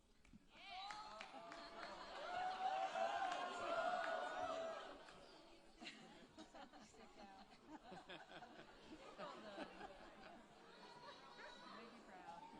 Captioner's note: applause and Cheering